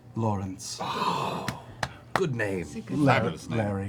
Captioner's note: sighs